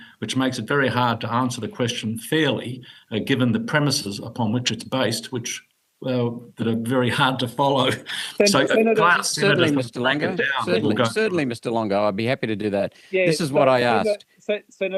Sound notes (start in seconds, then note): 7.7 chuckling